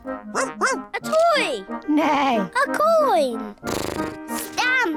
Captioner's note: barks; snorts; neighs